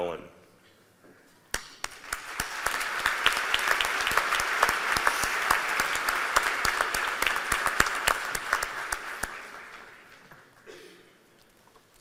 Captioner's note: cheers and applause